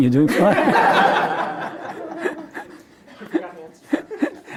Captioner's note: laughing